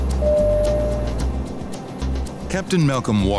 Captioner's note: P.A. dinging